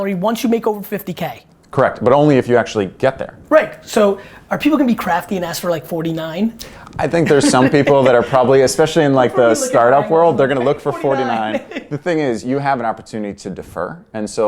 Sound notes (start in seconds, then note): 7.0 laughs